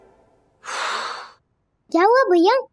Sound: sighs

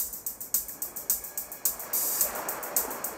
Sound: none

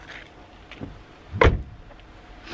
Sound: door being closed

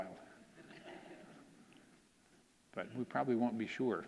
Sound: audience laughing

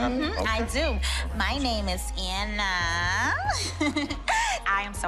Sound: giggles

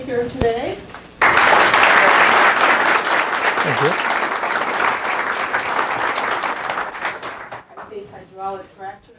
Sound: applause

